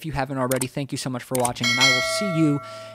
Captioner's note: bell ringing